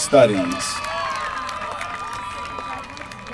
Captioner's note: applause